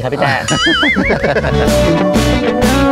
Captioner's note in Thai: เสียงหัวเราะ